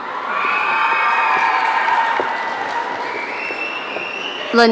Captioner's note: audience cheering